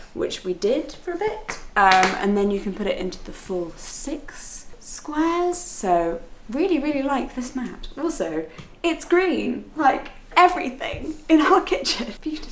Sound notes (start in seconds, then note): none